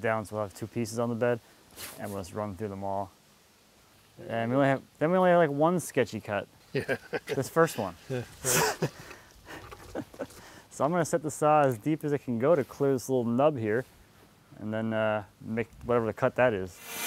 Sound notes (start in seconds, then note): 6.7 laughs